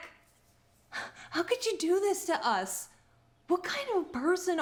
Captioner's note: scoffs